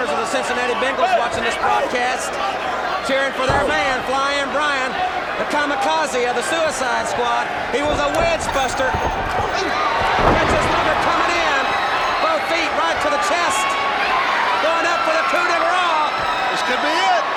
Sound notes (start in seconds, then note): 8.9 footsteps plodding; 9.9 blows thudding; 9.9 body thudding